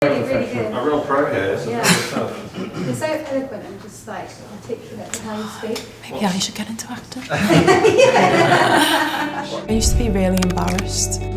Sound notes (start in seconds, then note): 7.3 laughing